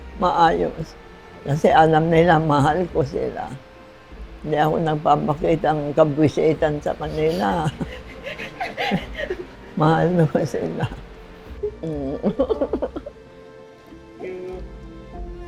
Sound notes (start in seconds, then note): 7.9 laughs; 11.4 giggles